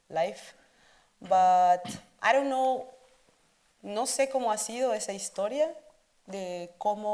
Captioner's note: speaks Spanish